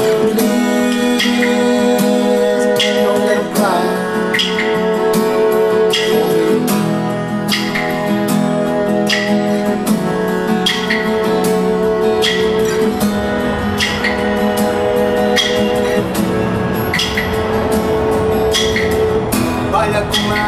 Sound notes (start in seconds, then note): 12.4 jet air-plane noise